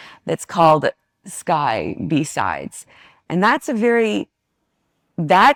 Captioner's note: none